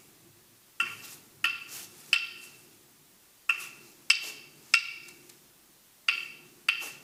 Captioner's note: sticks banging; leaves rustling